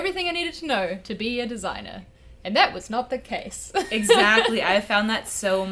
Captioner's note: laughing